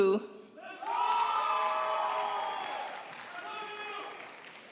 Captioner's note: crowd applauds